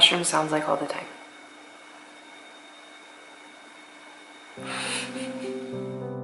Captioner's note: computer fan noise